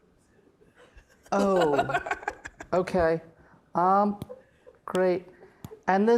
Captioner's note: laughing